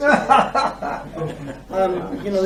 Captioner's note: laughter